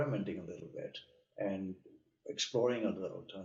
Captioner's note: speaking softly